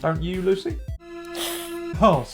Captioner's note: hiss